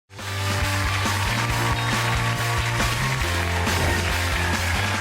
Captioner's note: audience cheering and applauding